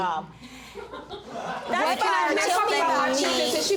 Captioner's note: audience titters